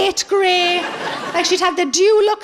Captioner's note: laughing